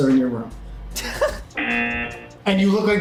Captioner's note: laughs; buzzer